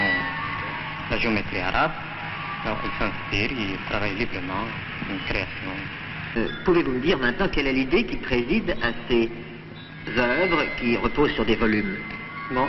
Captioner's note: applause